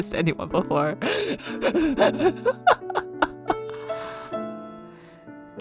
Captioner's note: hyperventilaughing